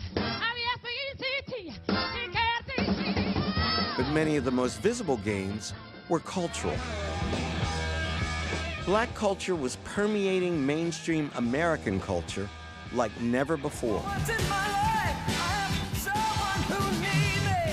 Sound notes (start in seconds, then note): 4.0 voiceover